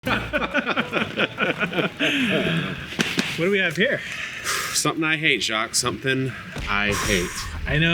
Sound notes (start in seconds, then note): 0.0 both laughing; 3.1 smacks pot